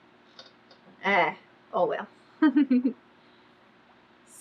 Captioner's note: laughs